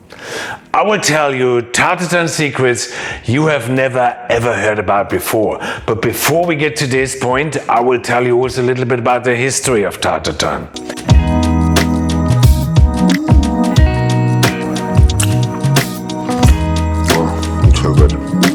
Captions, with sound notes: I will tell you tarte tatin secrets you have never, ever heard about before. But before we get to this point, I will tell you also a little bit about the history of tarte tatin. (lips smacking) Oh, it's so good.